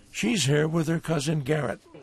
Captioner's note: yelling